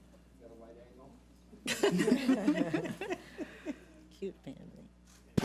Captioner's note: board members laughing